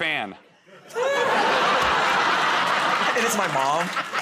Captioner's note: laughter